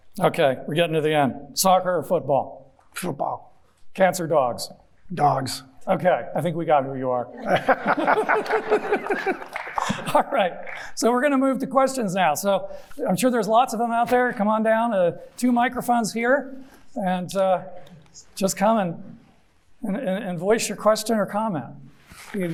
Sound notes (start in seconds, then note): 7.4 everyone chuckling; 9.5 audience members clapping